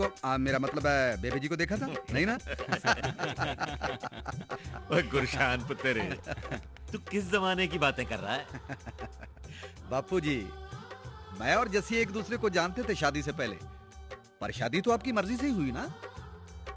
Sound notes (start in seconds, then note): 2.4 laughing